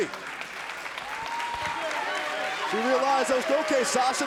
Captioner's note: crowd cheering